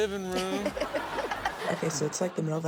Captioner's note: all laugh